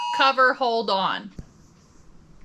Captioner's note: phone alert